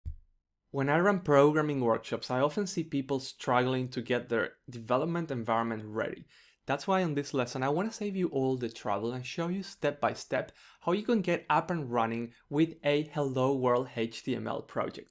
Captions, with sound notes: - [Voiceover] When I run programming workshops I often see people struggling to get their development environment ready. That's why in this lesson I want to save you all the trouble and show you step-by-step how you can get up and running with a Hello World HTML project.